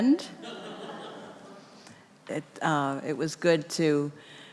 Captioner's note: congregation laughing